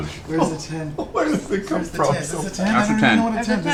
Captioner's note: laughs